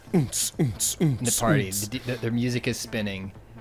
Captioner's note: beat boxing